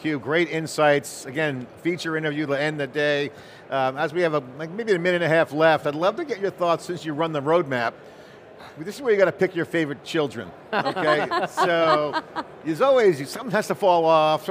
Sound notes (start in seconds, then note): 10.7 laughter